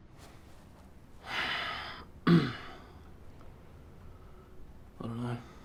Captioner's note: inhales and clears throat